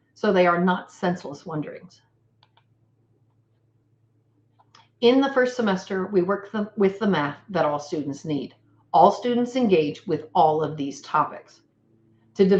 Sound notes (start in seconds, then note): 2.4 computer mouse clicks